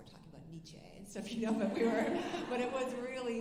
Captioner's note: alumni laughing